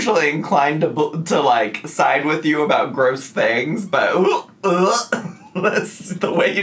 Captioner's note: gags